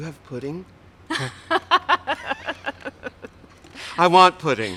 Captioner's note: laughs